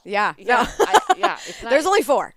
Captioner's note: laughing